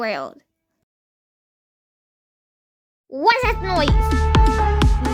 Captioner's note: laughs